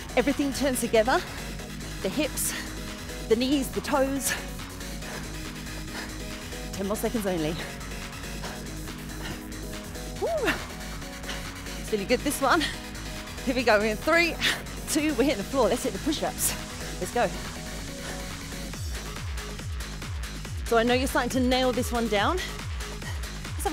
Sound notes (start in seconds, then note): 10.2 exclaiming